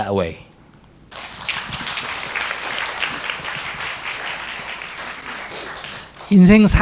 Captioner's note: audience applause